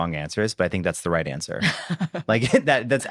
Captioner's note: laughs